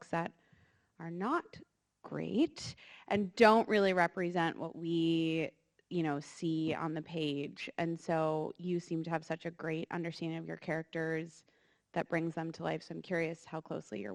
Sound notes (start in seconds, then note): none